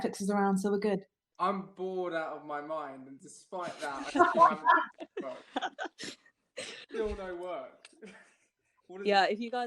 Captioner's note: laughing